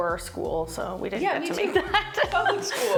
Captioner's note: laughing